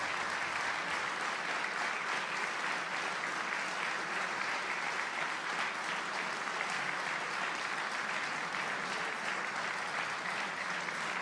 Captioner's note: applause